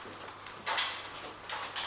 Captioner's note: clattering